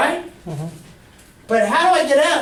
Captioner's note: voiceover